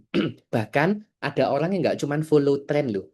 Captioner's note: berdehem